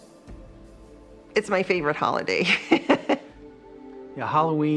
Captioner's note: laughs